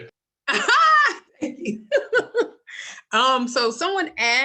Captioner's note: laughter